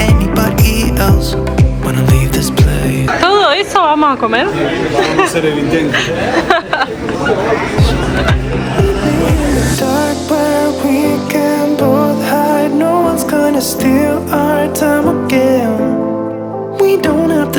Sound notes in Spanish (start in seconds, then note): 12.1 risas